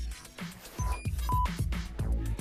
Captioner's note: beeping